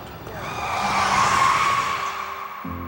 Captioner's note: tires squealing